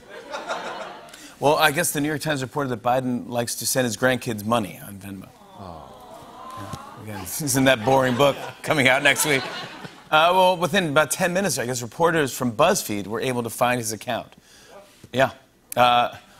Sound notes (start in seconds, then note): 0.0 laughter; 5.3 audience awws; 7.6 laughter